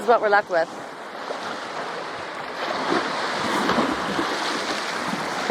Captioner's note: waves crashing